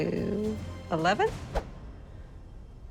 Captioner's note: swoosh